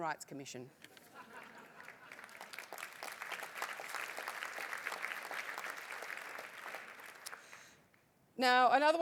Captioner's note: applause